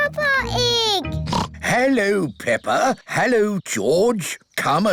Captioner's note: oinks